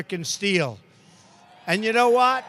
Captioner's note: applause